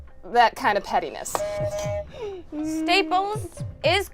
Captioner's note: buzzer buzzes